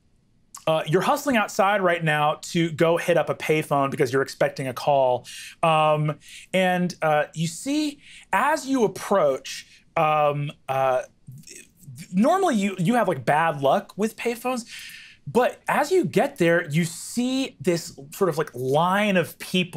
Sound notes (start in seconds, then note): none